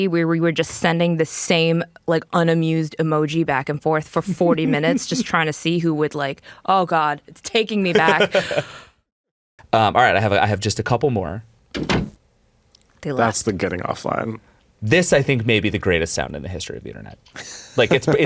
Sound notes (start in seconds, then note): 7.9 laughs; 11.7 door thuds